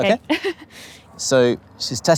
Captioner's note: chuckles